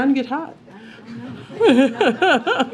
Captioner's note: laughter